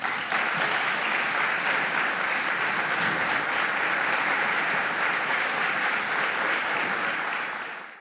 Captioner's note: applause